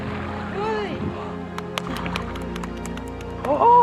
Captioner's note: starts Clapping